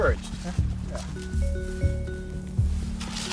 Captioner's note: phone chimes